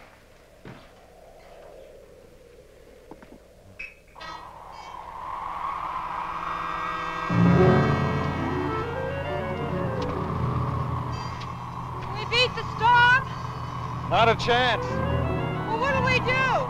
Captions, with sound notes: (tense music) (wind howling) - We beat the storm? - Not a chance. - Well, what do we do?